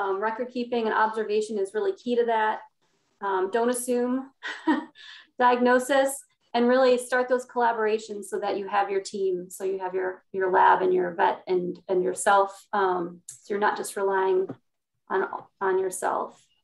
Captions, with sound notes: record keeping and observation is really key to that. Don't assume (laughs) diagnosis, and really start those collaborations so that you have your team. So you have your lab and your vet and yourself so you're not just relying on yourself.